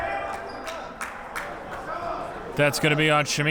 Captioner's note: clapping